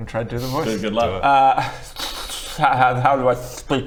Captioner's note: slobbering noises